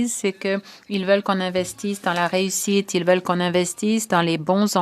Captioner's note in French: voix de l'interprète